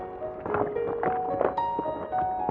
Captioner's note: gentle piano music; rocks clacking